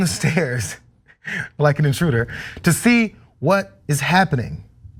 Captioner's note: laugh